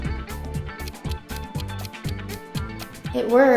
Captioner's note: clock ticking